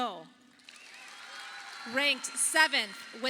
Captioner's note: audience applauding